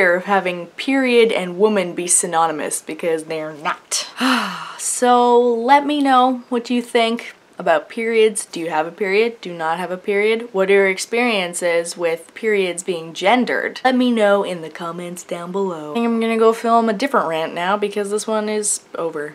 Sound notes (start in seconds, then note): 4.1 sigh